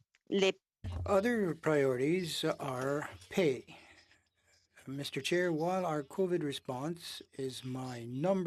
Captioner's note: speaking French